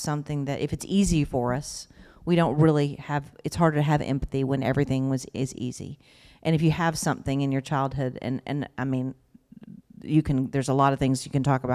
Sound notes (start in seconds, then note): none